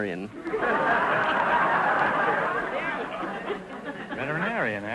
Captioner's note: audience laughter